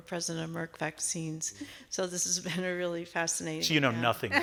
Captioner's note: all laughing